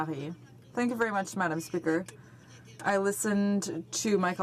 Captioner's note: speaking in french